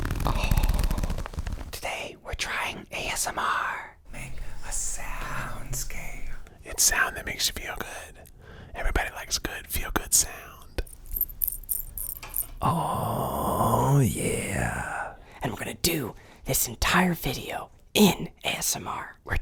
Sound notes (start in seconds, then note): 0.0 zipper; 10.8 beads jingling softly